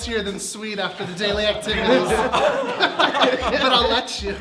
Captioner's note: everyone laughing